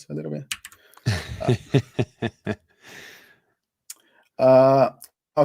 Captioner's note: laughs